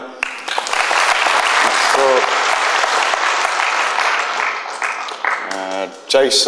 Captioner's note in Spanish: aplausos